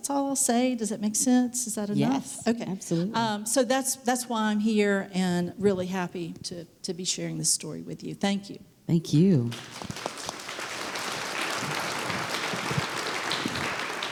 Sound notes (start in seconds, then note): 9.5 applause